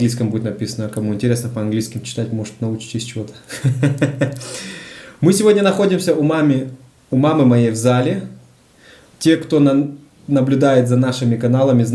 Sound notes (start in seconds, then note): 3.4 sneaky laugh